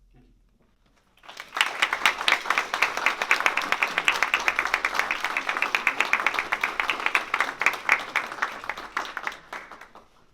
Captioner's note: applause